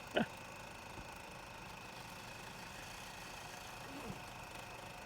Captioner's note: film reel whirring